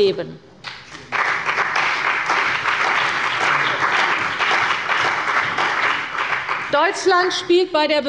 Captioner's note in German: Beifall bei der CDU und dem BÜNDNIS 90/DIE GRÜNEN